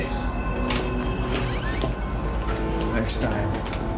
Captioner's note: door creaks